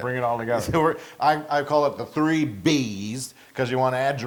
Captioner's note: laugh